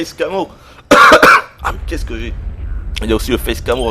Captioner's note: cough